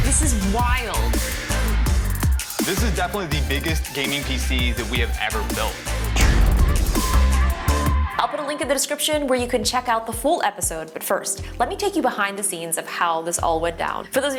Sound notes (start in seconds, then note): 6.1 bomb explodes